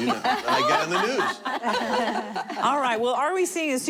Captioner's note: laughter